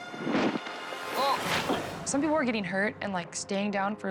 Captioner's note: ominious music; suspenseful music; tuber thumping